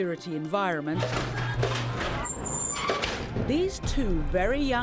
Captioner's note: door closes